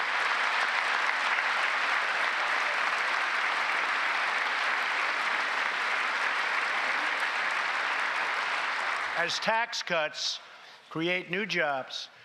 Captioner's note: applause